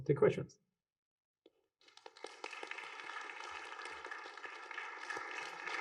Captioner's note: applause